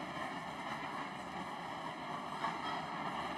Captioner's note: none